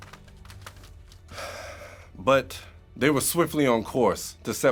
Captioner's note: sighs